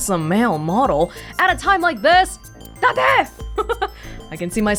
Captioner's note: chuckles